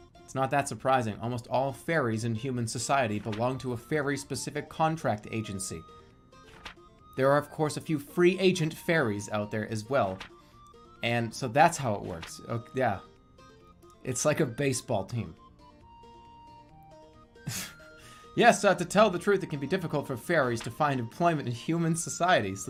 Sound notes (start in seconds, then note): 17.5 bursts out laugh